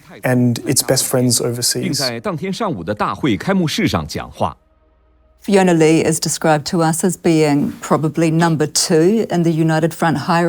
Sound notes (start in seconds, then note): 2.4 speaking in foreign language